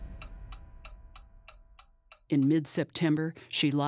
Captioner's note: clock ticking